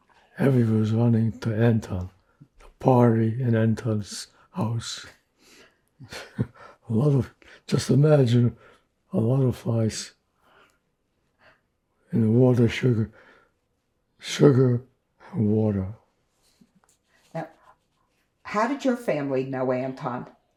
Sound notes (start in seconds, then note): 6.0 laughing